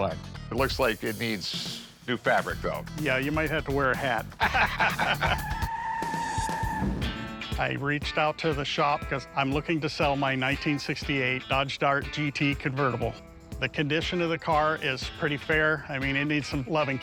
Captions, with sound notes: It looks like it needs new fabric, though. - Yeah, you might have to wear a hat. [laughter] [tires screeching] I reached out to the shop because I'm looking to sell my 1968 Dodge Dart GT convertible. The condition of the car is pretty fair. I mean, it needs some love and care,